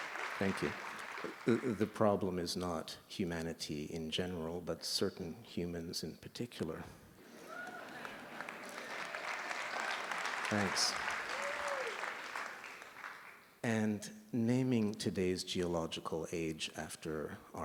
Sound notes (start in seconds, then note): 7.2 laughter; 7.3 applause